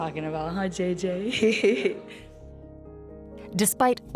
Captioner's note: chuckles